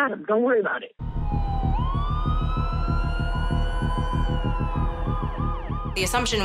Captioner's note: siren wails